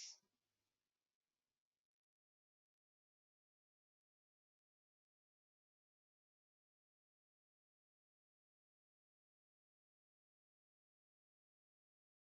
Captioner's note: 17 seconds pause